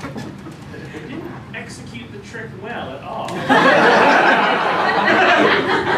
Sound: laughter

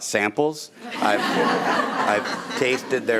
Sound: audience laughing

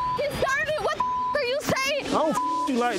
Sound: beep

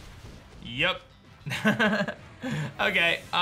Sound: soft laugh

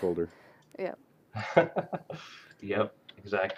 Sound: laughter

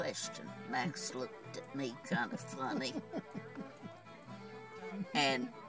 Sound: chuckles

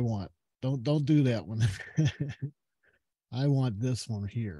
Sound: giggles

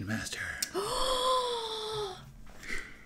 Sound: long gasp

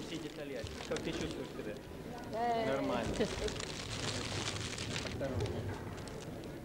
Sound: russian

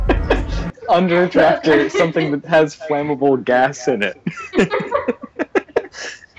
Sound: laughter

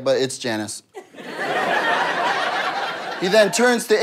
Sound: audience laughter

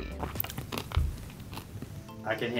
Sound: crunching

